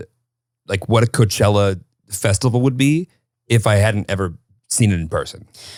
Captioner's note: none